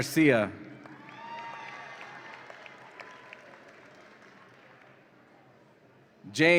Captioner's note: audience applauds and cheers